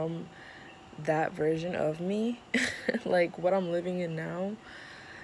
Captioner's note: laughs